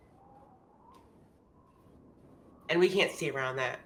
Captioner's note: wind whooshing softly